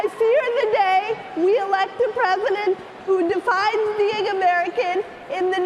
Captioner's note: cheering and applause